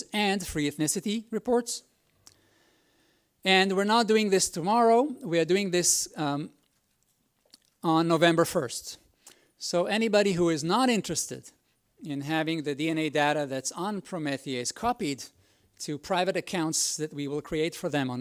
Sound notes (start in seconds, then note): none